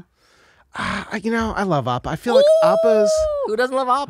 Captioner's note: exclaims